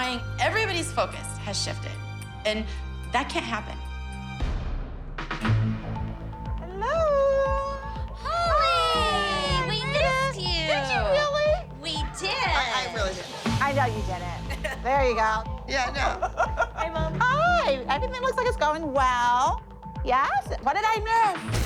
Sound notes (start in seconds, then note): 7.3 gasps; 13.7 laughs; 16.0 laughs